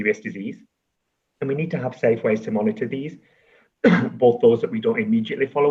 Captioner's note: coughs